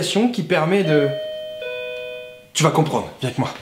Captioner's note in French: ding-dong